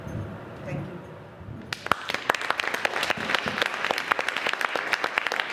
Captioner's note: applause